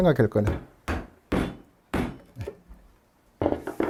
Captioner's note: hammering sound